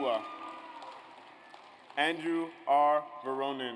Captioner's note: audience applauds